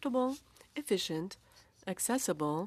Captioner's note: speaking French